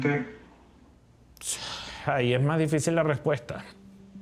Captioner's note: sighing